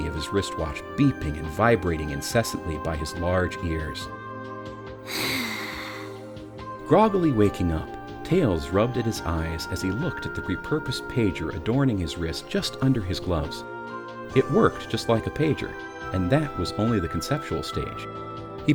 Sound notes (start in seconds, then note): 5.0 deep exhale